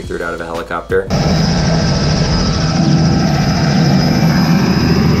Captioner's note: helicopter whirring